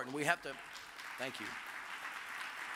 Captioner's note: audience applauds